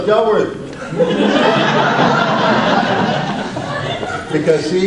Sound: audience laughs

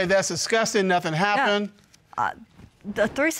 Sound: stammers

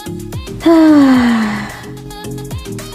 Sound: light music; sighs; light music

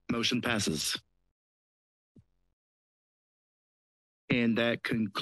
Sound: silence

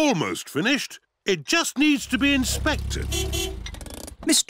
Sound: horn beeps

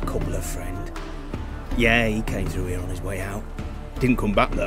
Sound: hushed; normal voice

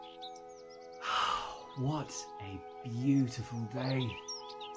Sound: birds chirping over; deep breath

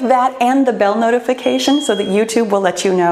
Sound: timer beeps

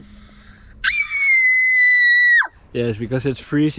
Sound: howling

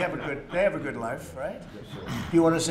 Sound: laughter

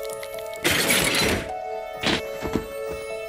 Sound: metals clanking; upbeat calm music

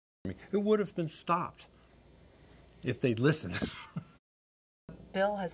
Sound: laughing

